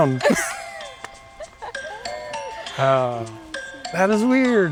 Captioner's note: laughter